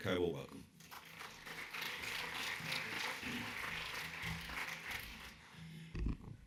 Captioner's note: audience applauding